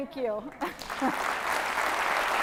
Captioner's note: laughs